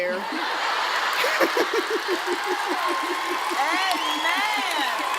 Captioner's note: laughter; applause